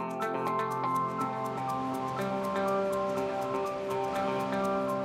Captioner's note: upbeat music; water rushing